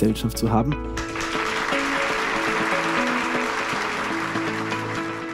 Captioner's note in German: Applaus und Musik